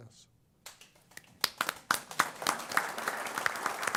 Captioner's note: applause